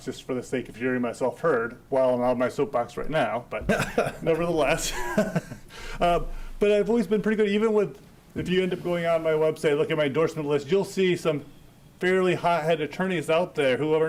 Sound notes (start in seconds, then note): 3.6 chuckling